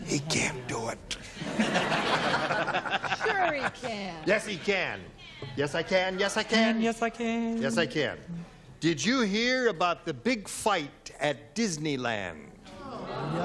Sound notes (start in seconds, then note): 1.3 laughter